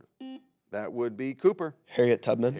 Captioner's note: buzzer beeps